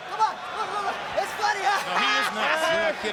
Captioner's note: laughs